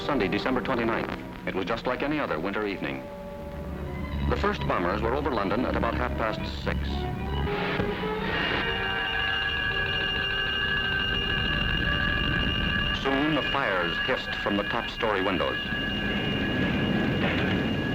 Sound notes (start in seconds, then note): 8.8 alarm rings